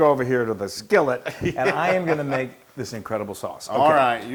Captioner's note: laugh